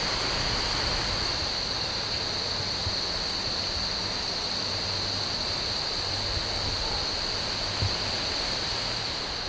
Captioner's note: insects